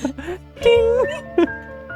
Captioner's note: bing!; laughs